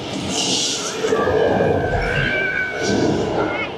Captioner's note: Kong growling